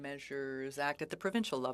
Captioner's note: speaking French